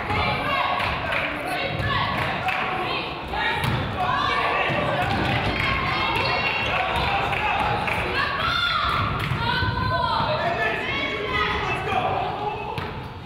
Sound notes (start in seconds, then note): 1.0 claps; 8.5 coach yells